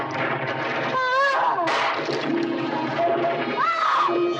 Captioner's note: suspenseful orchestral music continues; Lady Haloran grunting